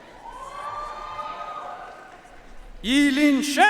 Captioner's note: audience cheering and applauding